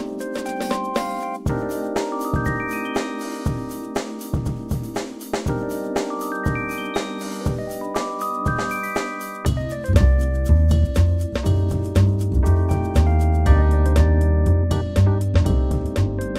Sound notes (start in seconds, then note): 2.1 oooh more pretty twinkle sounds